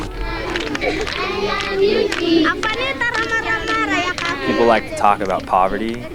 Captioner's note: speaking in foreign language